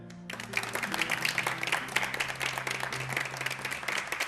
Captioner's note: χειροκρότημα